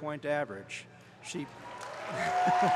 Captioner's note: applause